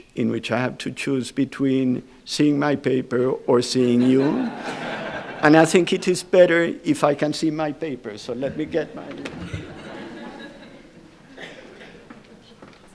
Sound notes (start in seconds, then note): 3.8 audience laughs; 8.4 audience chuckles